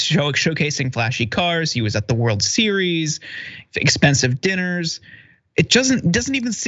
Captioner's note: laugh